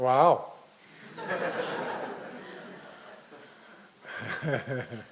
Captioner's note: audience laughing